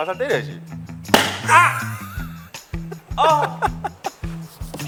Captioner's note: whack